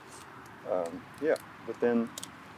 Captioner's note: leaves snapping